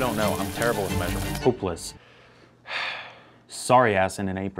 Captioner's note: sighs